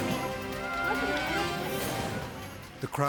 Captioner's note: onlookers speaking in foreign language